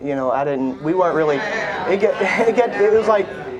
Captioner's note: audience groans